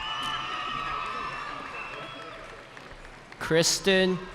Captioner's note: cheering